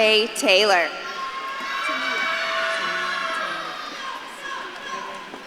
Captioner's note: audience claps and cheers